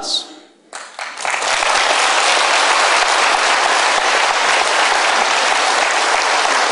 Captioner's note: applause